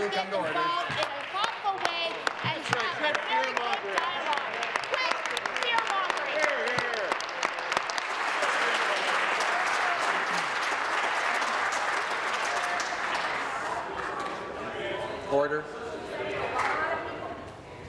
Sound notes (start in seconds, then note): 8.3 applause